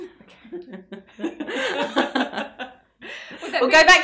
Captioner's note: laughing